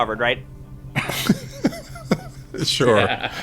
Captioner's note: laughing